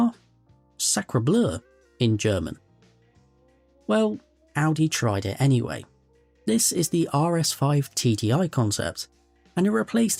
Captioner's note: in German